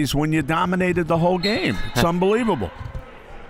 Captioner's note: referee blows whistle